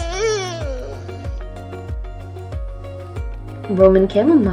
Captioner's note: sad dog whine